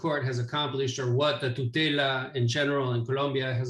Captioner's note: foreign language